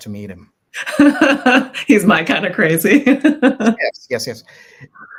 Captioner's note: chuckles